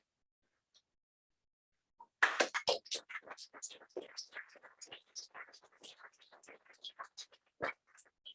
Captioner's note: applause